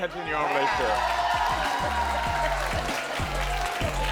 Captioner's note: audience applaud; upbeat music